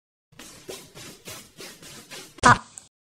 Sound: scratching pencil noises

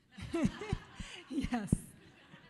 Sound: audience chuckles

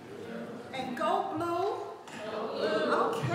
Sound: none

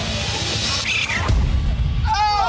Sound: animal squeaks; intense music

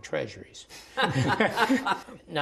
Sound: laughter

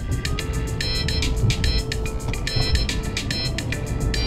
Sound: phone rings

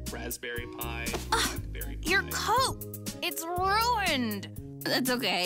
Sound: gasps

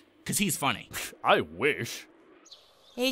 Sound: scoffs

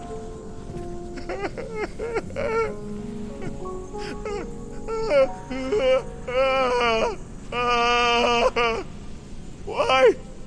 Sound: weeping

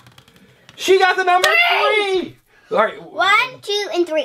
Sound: voiceover

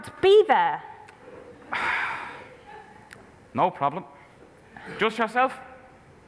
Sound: sighs

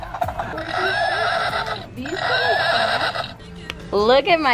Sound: horse neighs

